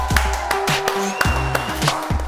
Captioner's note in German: Applaus und Jubel